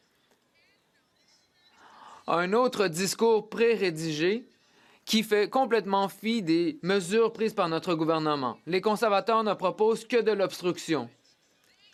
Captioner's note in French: voix de l'interprète